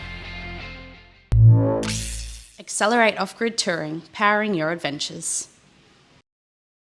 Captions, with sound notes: (dramatic music) (electricity crackling) Accelerate Off-Grid touring, powering your adventures.